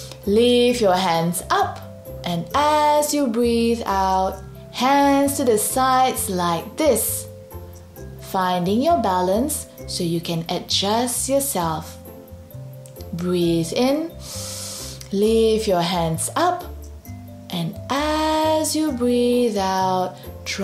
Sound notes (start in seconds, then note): 0.0 breathes in deeply; 14.2 breathes in deeply